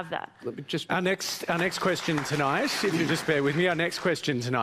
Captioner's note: applause